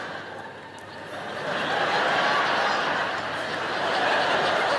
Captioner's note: audience laughing